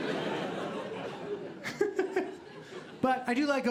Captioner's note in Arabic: ضحكة خافتة